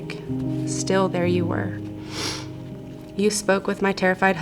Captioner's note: snuffles